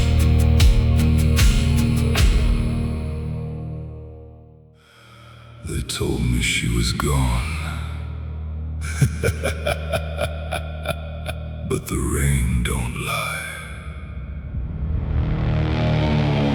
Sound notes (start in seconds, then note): 8.8 laughter; 14.7 sighs